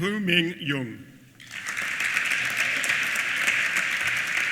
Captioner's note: applause